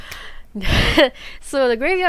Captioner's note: exhale laugh